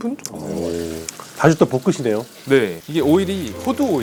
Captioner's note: sizzle